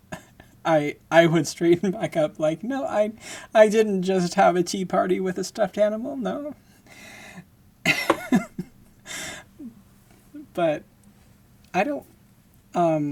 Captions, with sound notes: I, I would straighten back up, like, "No, I, I didn't just have a teaparty with a stuffed animal, no." [laughing] but I don't, um,